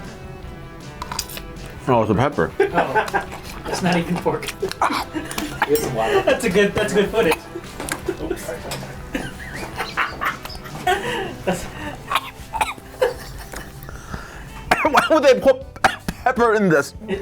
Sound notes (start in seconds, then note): 2.9 man laughs; 5.4 man laughs; 7.9 man laughs; 8.7 coughs